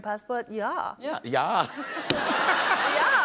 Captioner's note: laughter